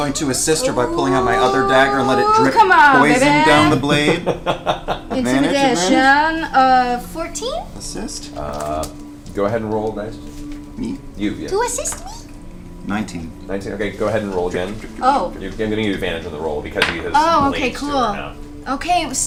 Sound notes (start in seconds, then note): 4.8 laughs; 12.4 squeaky voice